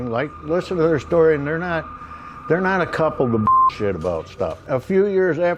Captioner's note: beep